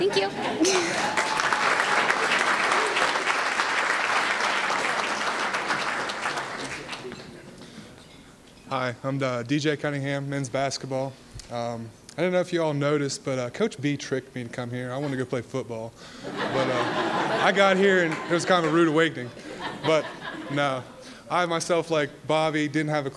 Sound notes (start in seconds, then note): 0.6 applause; 16.2 laughter